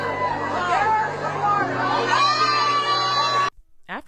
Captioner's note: crowd cheering